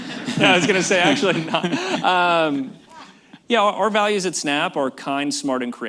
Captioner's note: laughter